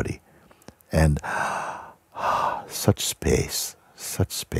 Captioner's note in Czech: hluboký nádech a výdech